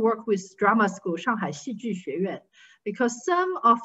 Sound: speaking in foreign language

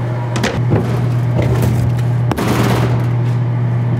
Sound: trays thudding

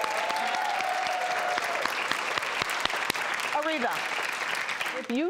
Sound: audience claps

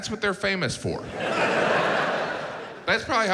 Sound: audience laughs

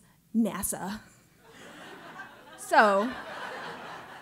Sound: laugh

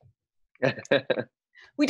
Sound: chuckle

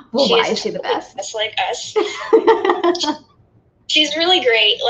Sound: laughs

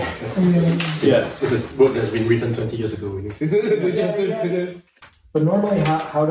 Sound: laughs

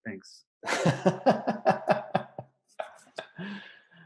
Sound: laughs

